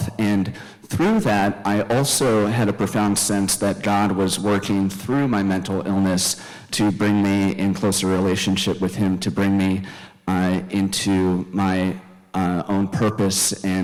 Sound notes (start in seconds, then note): none